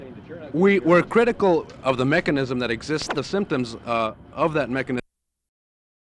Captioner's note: camera noise